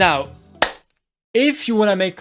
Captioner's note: clap